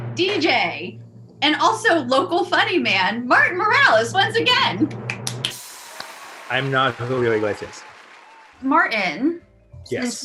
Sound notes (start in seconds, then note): 4.7 drum roll; 5.4 audience cheering